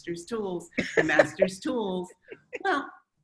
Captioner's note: laughs